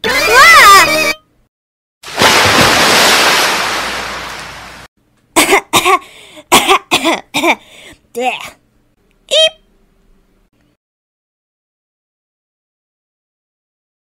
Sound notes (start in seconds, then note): 0.2 screams!; 6.4 coughs